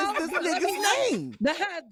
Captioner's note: laughing